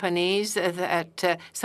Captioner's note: speaking French